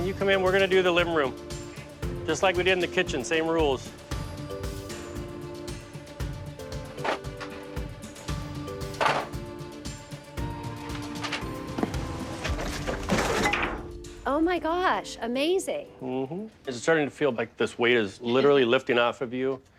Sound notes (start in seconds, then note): 3.8 pensive music; 7.0 objects clattering; 10.8 objects clattering; 12.0 light suspense music